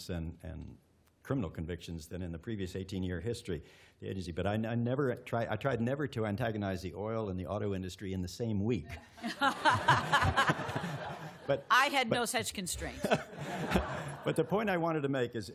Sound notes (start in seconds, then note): 8.9 laughter